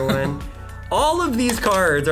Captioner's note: laughing